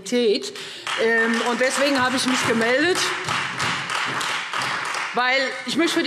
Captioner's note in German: Beifall Freie Demokraten und SPD